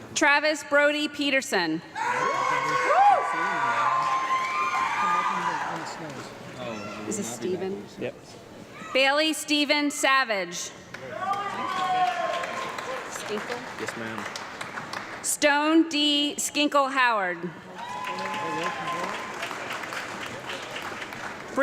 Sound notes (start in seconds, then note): 2.2 audience clapping and loud yelling; 12.8 audience clapping and loud yelling; 17.7 audience clapping